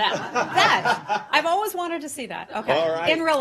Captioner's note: laughter